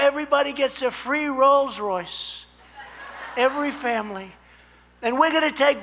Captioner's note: laughter